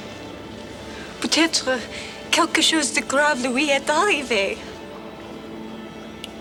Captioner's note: Jilly speaks French